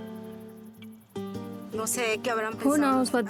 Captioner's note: woman speaking Spanish